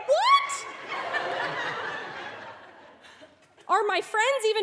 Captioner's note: audience laughing